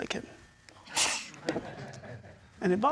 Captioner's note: scoffs